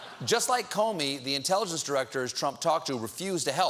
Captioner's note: laughter